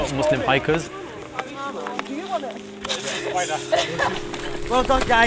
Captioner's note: hikers chatting